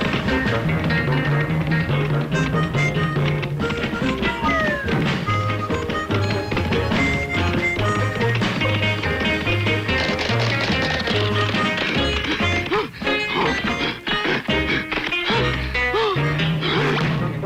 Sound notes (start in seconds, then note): 0.3 hooves racing; 6.2 playful upbeat music; 8.4 hooves racing; 12.3 tiger gasping